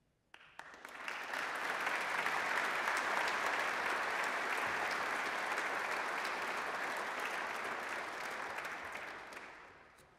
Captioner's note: applause